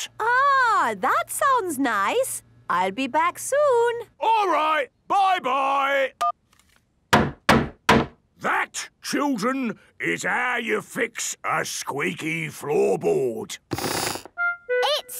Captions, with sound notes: - Ahh, that sounds nice. I'll be back soon. - All right, bye, bye! - (hammering) - That, children, is how you fix a squeaky floorboard! - (squeaks)